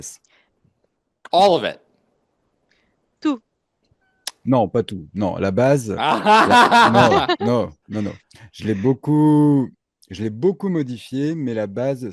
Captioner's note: translating from French